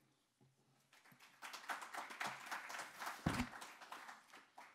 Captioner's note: audience applauding